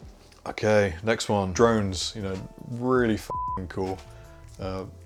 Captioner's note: beep